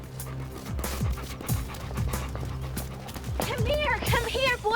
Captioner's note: panting